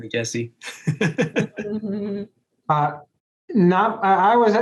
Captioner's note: laughs